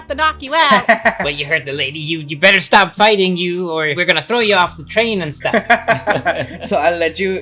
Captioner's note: laughter